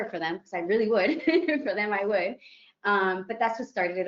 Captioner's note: chuckles